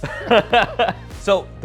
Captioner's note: they chuckle